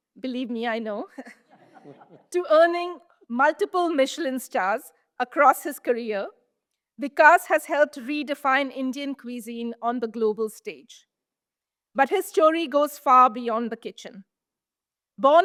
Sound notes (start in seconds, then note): 1.5 audience laughs